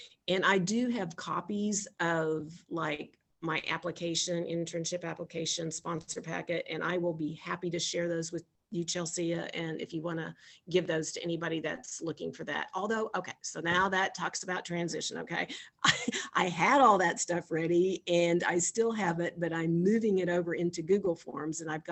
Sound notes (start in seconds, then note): 15.9 chuckles